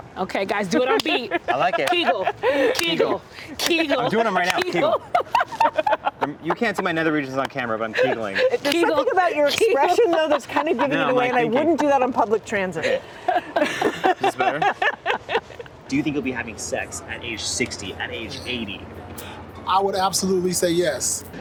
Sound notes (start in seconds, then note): 4.5 laughing loudly; 12.7 all laughing